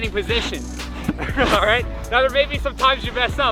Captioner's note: laughs